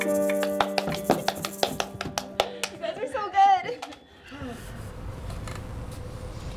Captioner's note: scattered applause and laughing